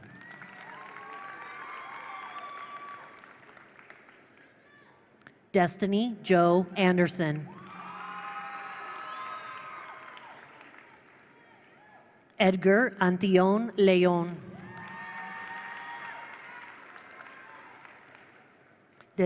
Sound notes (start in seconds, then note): 0.0 attendees cheer; 0.0 attendees applaud; 7.5 attendees cheer; 7.5 attendees applaud; 14.5 attendees cheer; 14.6 attendees applaud